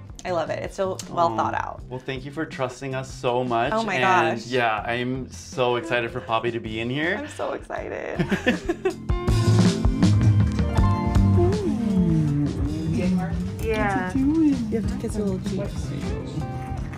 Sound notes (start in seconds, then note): 8.2 laughs; 9.2 soft jazzy music